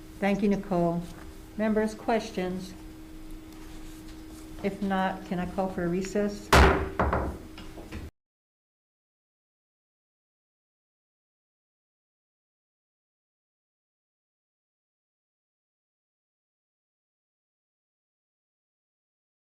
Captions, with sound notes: - Thank you, Nicole. Members, questions? If not, can I call for a recess? (gavel banging on table)